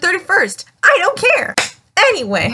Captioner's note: clap